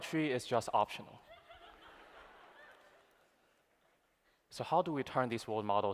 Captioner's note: laughter